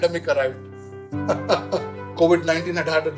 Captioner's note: laughing